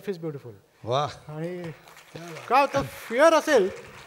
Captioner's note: applause